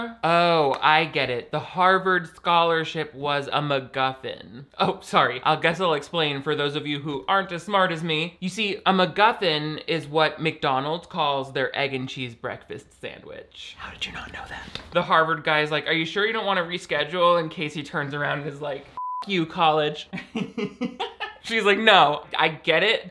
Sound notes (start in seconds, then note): 18.9 beep; 20.1 laughter